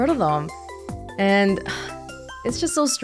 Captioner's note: exhales